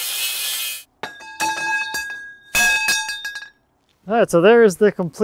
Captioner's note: metal clanking